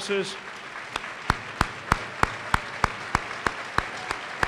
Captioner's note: applause